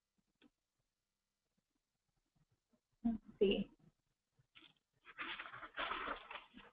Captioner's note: pause